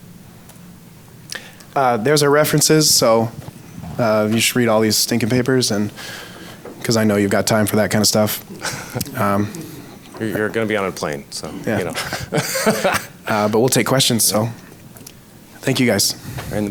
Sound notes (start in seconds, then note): 8.2 giggles; 11.4 laughs